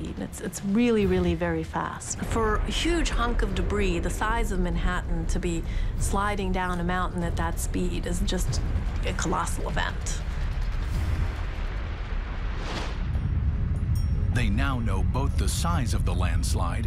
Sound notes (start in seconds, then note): 9.9 water crashing